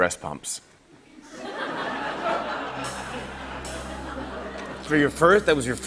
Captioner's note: laughter